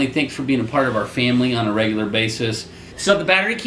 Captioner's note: none